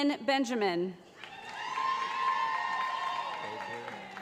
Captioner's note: cheering